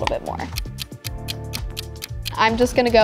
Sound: clock ticking

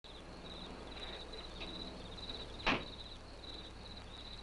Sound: crickets chirping

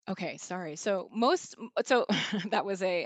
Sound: chuckles

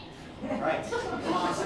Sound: laughter

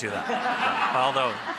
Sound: laughing

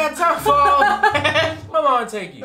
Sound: laughs

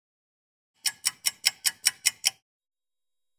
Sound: sound of a ticking clock

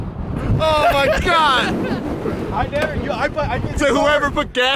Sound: laughing

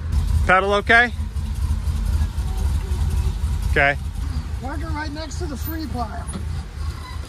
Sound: engine sound

